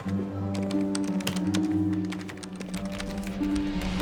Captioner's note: woman keying